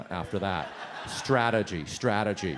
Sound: audience laughs

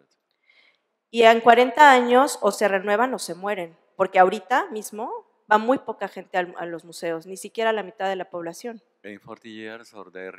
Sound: speaking spanish

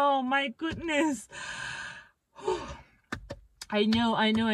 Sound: sigh

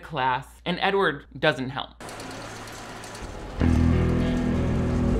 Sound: fan whirring; paper rustling

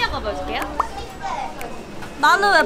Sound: whir

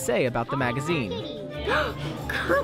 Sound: gasp

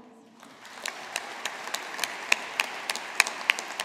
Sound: audience applauding

